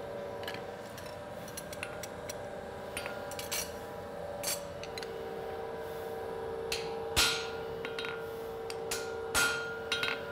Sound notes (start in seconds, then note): 2.5 metal clanking